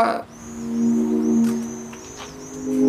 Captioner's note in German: Vogelgezwitscher